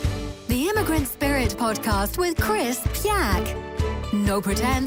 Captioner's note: voiceover